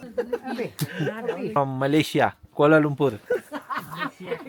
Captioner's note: laugh